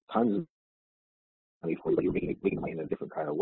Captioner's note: audio distorts